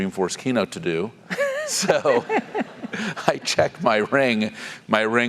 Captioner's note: laugh